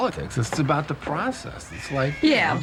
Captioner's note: Janey crying